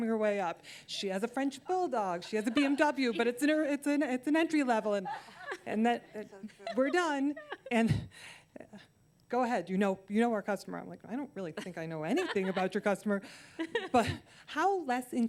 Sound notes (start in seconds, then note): 6.1 laughter